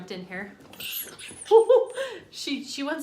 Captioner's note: dog whimpers